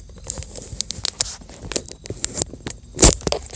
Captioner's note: rummaging